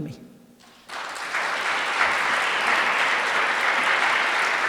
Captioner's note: audience applauds